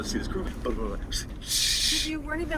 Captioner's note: mutters